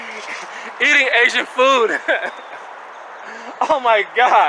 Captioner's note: laughing